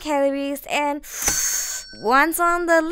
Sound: sucks in breath

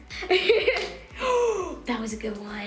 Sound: laughing; gasping

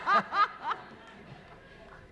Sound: laughter

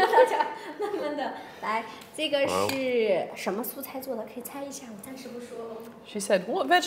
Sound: speaking Chinese

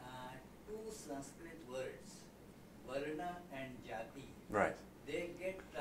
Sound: non-english

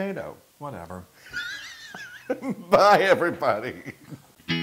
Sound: laugh

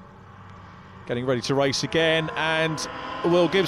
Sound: engines roaring

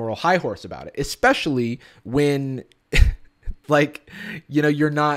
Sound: chuckles

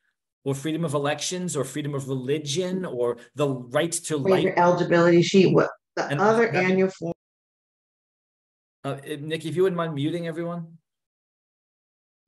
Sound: audio interruption

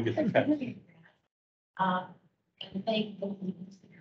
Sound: group chattering

